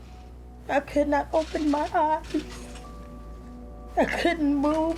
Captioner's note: voice breaks